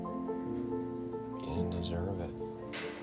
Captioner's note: voiceover